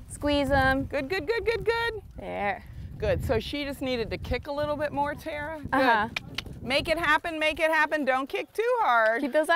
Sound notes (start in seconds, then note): 7.3 clicking tongue